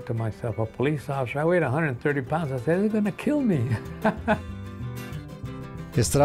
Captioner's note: laughs